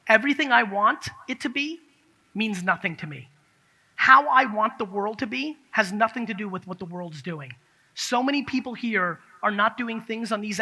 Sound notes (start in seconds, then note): none